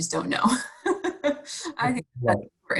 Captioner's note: laughing